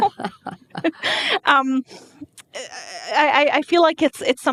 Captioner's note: laughing